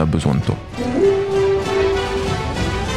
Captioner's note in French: son de corne